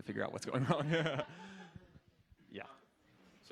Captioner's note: laughter